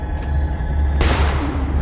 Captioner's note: gun fires